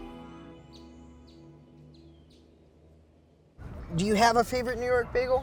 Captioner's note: birds chirping